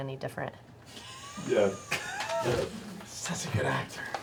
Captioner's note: laughter